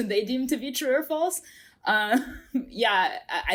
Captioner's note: chuckles